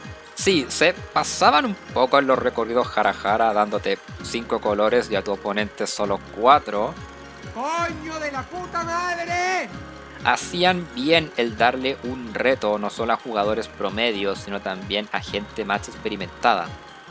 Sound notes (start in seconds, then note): 7.1 Dross curses in Spanish